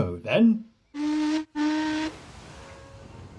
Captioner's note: adam whistles